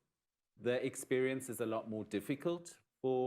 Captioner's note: none